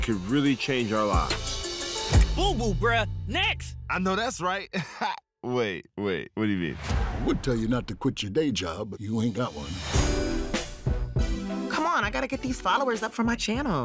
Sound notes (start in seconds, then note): 4.7 chuckles